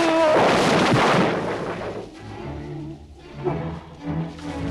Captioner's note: Torente shouts; crates clatter